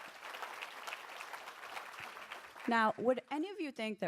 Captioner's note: applause